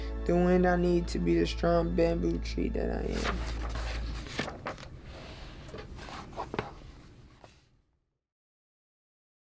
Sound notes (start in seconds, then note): 4.6 pages softly scraping together